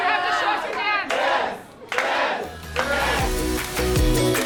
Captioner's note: shouts; bright upbeat music